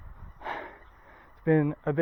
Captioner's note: deep breath